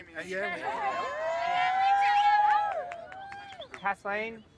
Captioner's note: crowd cheering